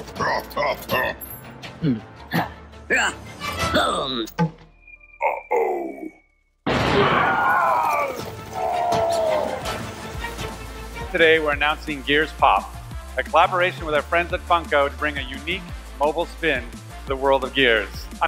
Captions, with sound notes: (laughs evilly) (vocalizing grunts) - Uh oh. (bomb exploding) - Today, we're announcing Gears Pop, a collaboration with our friends at Funko to bring a unique mobile spin to the world of Gears.